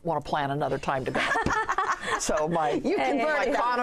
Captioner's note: laughter